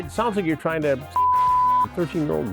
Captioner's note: beep